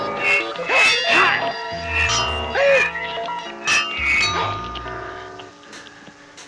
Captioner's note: clanging; grunting